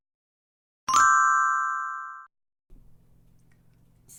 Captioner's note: chiming